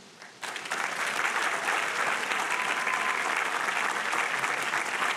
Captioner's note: audience applauding